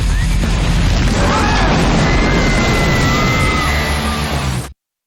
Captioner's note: crowd screaming